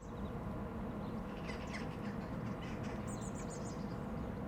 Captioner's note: birds chirping